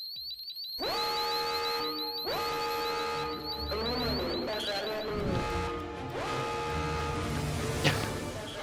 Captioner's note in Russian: Пожарная тревога